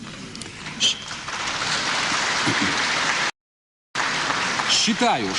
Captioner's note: applause